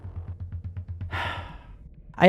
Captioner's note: sighs